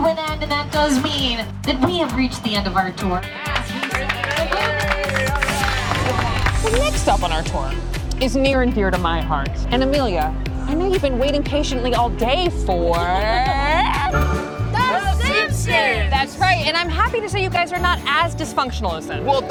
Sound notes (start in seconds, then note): 3.4 group applauding; 14.2 upbeat music